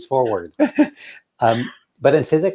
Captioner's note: laughs